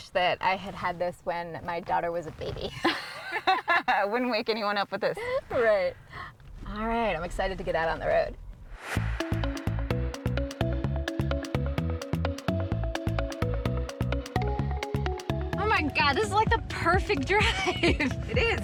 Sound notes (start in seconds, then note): 2.8 both laughing; 8.7 upbeat music